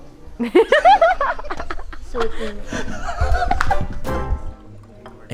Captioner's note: peals of laughter